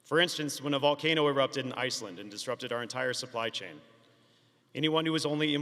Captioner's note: none